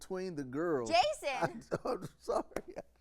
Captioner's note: laughs